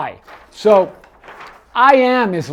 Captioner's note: paper crinkling